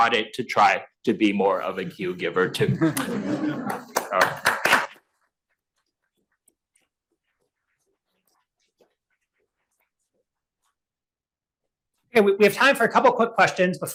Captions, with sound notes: to try to be more of a cue giver too. (attendees clapping) - Okay, we have time for a couple quick questions